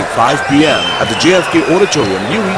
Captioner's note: wild applause and cheering for 22 seconds